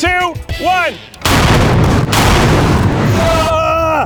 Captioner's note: cannon exploding loudly